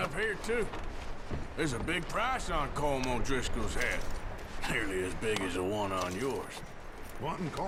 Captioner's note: laughs